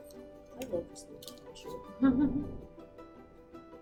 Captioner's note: laughs